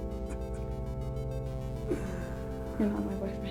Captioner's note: The Adversary chuckling